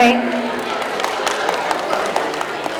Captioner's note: audience clapping